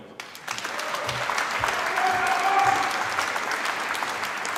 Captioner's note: applause